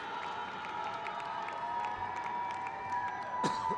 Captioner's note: crowd cheers